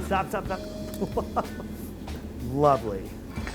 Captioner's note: laughing